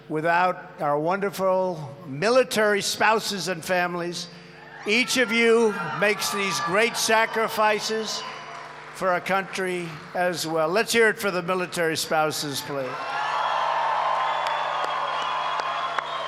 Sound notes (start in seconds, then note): 13.1 applause